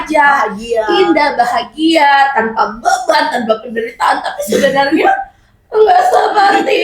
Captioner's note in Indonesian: tertawa